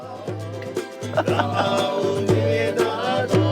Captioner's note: chuckles